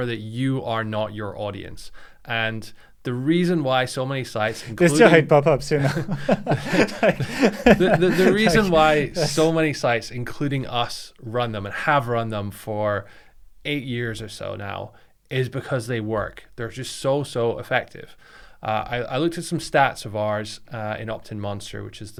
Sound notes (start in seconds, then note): 6.5 laughing